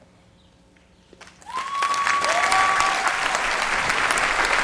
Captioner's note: applause